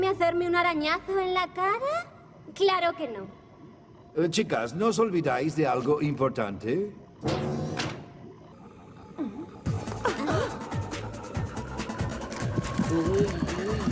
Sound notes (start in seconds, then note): 10.4 gasps